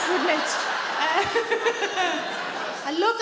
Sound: sarah chuckles

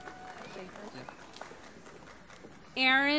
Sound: applause

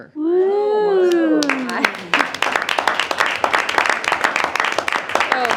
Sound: board cheers and applauds

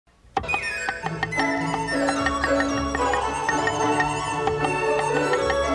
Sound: cheerful upbeat music; knife chopping

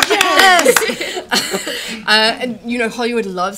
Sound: laughter

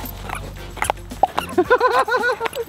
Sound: dogs panting; shoes squeaking; Rocky laughs

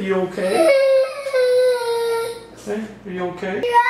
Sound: crying; crying

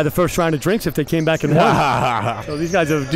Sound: laughing

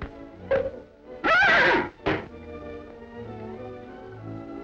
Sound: horse neighs; thoughtful orchestra music

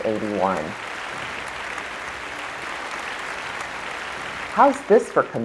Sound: applause

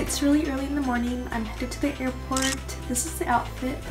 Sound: camera snaps

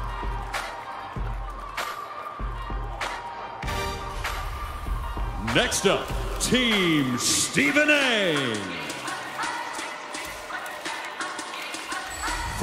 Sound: cheers and applause

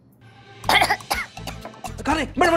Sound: coughing

